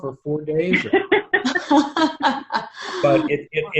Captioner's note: everyone laughs